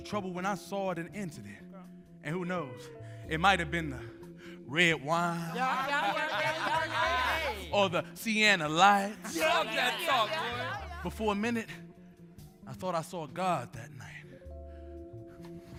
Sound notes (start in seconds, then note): 5.4 group laughing